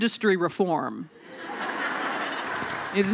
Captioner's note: laughter